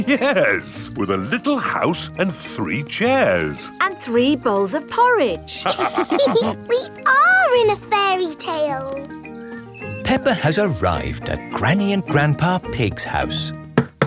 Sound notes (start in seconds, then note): 0.0 chuckling; 5.6 all laughing